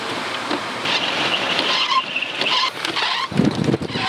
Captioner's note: wipers squeaking